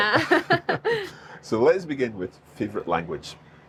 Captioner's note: both laugh